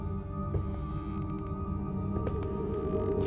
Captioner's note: floorboard creaks; ominous music